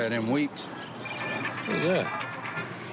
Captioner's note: cell phone rings